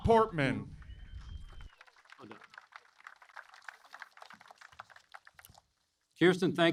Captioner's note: applause